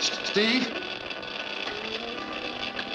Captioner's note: geiger counter going off